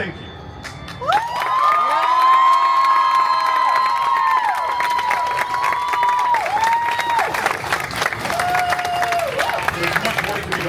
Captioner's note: guests cheering and applauding